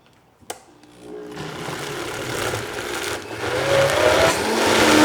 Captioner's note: blender whirring